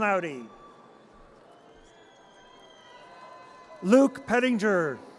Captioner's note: audience cheers